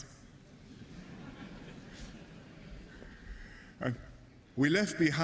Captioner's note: laughter